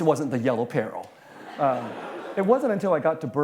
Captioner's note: laughter